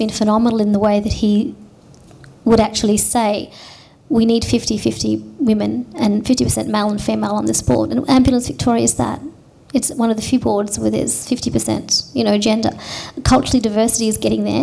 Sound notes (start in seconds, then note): none